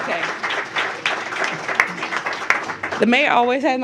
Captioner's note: applause